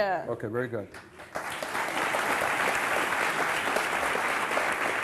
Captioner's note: audience applauding